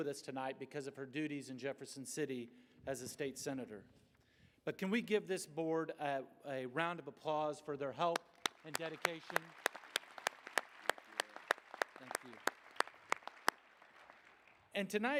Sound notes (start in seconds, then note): 9.8 applause